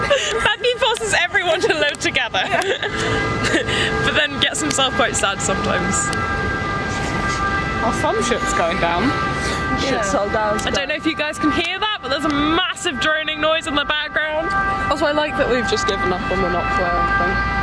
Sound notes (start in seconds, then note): 0.0 laugh; 1.7 droning noise in background intensifies; 5.1 droning noise in background intensifies; 6.6 droning noise in background continues; 11.1 droning noise in background continues; 13.6 droning noise in background continues; 16.6 droning noise in background continues